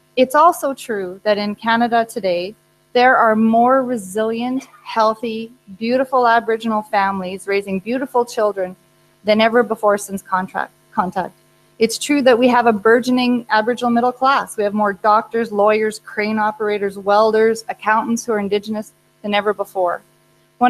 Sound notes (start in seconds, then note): none